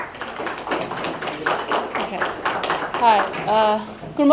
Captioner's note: audience applauding